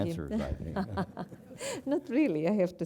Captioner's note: laugh